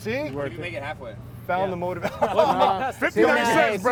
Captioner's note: laughter